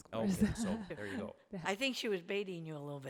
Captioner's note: laughs